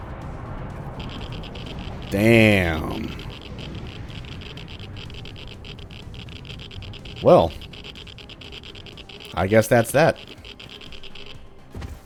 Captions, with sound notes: Damn! *Geiger Counter going ballistic* Well... I guess that's that.